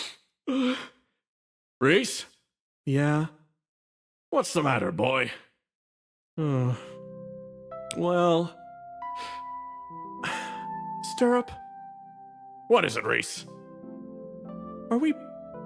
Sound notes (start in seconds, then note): 10.2 sigh